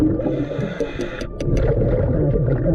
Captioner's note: taps on window